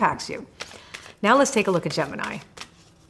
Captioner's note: cards shuffling